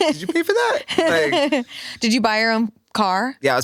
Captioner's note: laughs